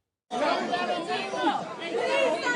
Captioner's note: murmurs